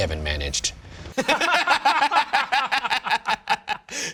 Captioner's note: laughing